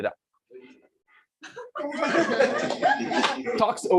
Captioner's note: laughter